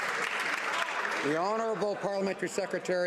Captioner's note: some Applause